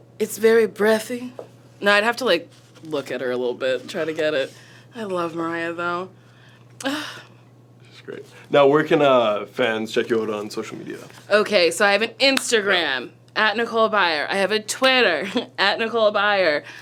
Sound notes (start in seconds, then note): 6.8 sighs; 15.3 chuckles